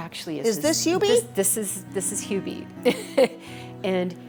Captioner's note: laughs